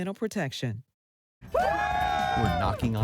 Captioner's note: cheering